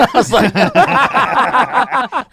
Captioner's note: laughs